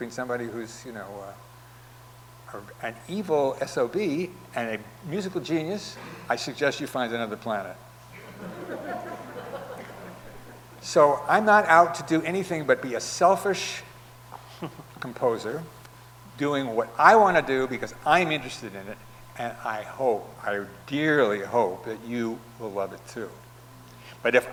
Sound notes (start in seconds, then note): 8.1 audience laughing